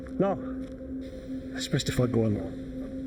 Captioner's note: none